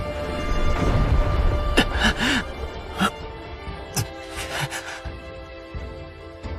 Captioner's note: gasp